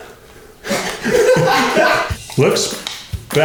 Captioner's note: laughing